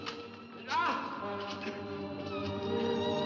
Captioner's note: ominous music; Eric cries out; suspenseful music